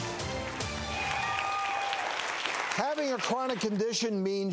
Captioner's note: upbeat instrumental music; audience cheers